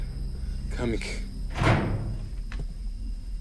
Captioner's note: click